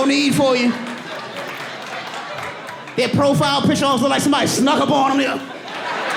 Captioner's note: audience laughing